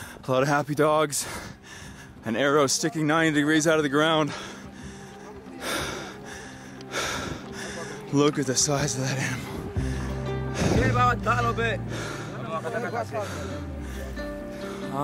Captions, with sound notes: A lot of happy dogs, an arrow sticking 90 degrees out of the ground. (panting heavily) Look at the size of that animal. (speaking foreign language)